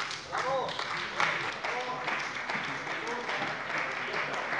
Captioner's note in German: Beifall bei der CDU und dem BÜNDNIS 90/DIE GRÜNEN